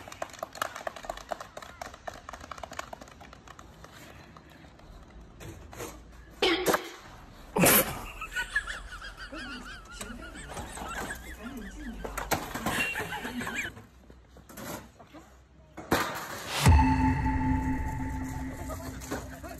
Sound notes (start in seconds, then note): 0.0 clapping; 7.6 snickering